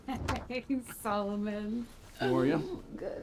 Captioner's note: chuckles